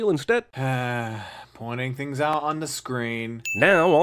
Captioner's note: sigh